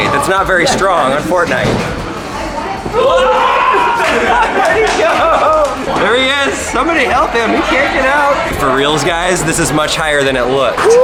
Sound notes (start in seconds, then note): 2.9 loud yelling; 3.6 laughing